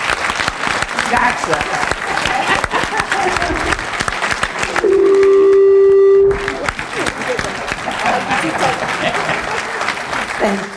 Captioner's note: applause